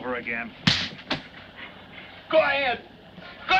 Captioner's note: slap cracks